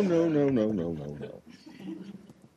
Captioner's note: laughter